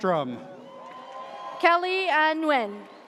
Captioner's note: audience cheers